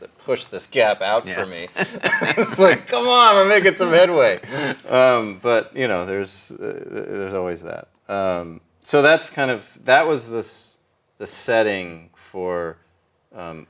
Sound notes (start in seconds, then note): 1.4 both laughing